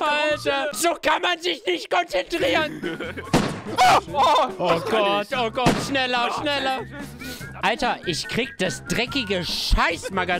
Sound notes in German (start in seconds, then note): 3.8 Ahhh!